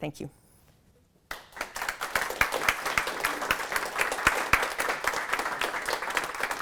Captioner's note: applause